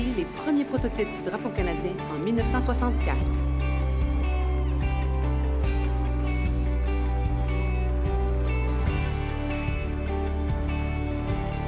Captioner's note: speaking French